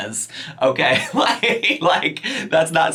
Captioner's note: laughs